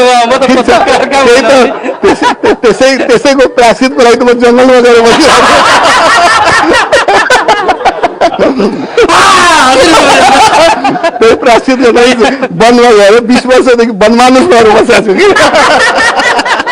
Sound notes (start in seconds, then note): 10.8 laughter